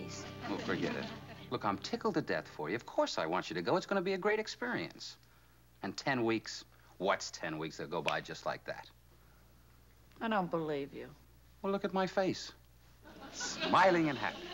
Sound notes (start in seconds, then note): 8.0 snaps